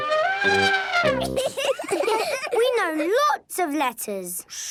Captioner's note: trumpets; laughing